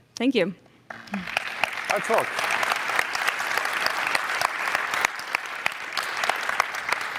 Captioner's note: applause